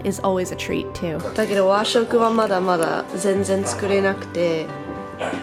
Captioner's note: speaking foreign language